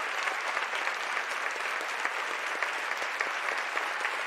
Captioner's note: applause